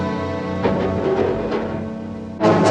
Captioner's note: clattering